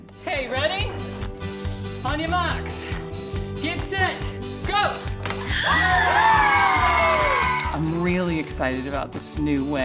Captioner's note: students watch experiment and cheered